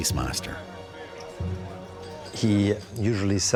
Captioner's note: indistinct chatter